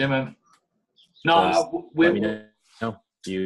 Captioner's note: audio distorting